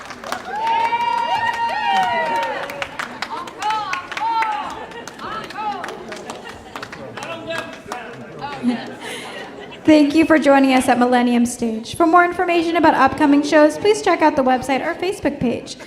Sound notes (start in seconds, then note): 0.2 audience applauding and cheering; 9.8 laughs